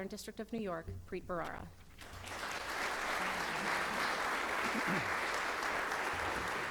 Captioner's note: clapping; clears throat; clapping